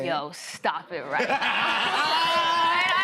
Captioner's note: laughter